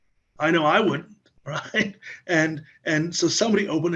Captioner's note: laughs